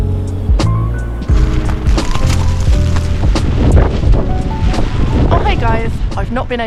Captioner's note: wind & rain